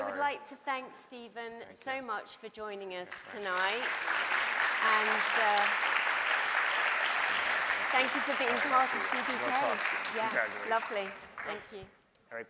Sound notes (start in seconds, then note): 3.1 audience applauds